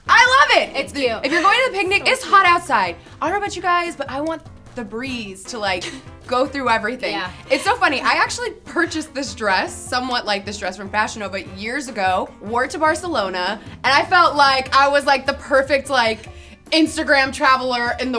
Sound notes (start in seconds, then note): 7.4 laughs